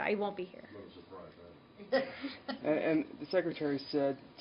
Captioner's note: laughter